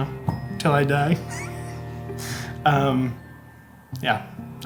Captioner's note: laughing